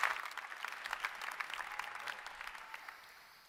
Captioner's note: applause